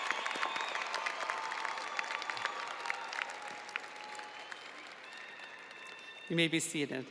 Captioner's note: audience cheering and applauding